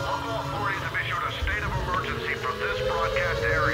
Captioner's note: radio Voice